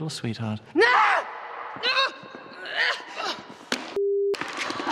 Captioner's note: screaming